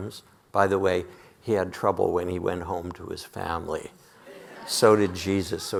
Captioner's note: audience laughing